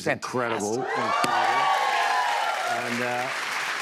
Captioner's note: cheers and applause